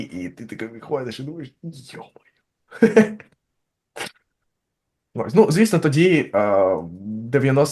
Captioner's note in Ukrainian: сміється